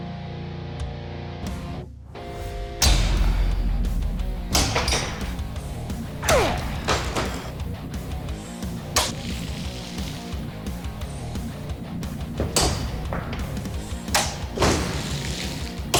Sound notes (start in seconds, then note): 6.2 grunting